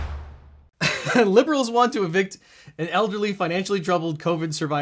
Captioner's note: dramatic percussion; laughs